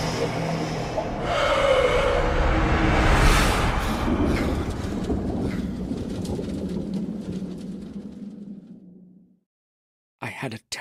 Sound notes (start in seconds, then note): 2.8 gasp